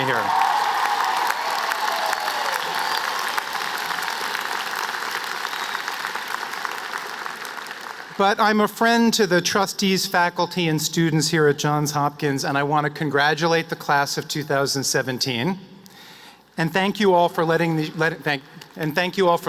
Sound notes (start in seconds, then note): 7.4 applause